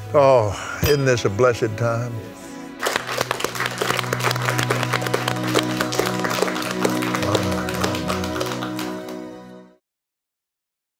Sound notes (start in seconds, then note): 2.8 clapping